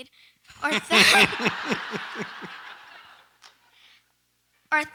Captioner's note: audience laughs